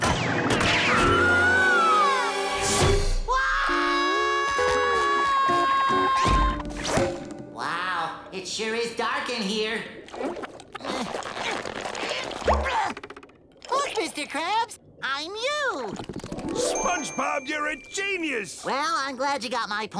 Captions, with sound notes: [screaming] [screaming] Wow. It sure is dark in here. [grunting] Look, Mr. Krabs, I'm you. SpongeBob, you're a genius. Well, I'm glad you got my point.